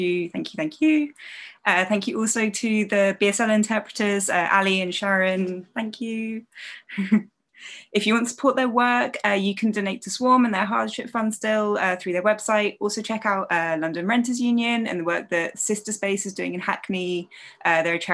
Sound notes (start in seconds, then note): 6.7 chuckles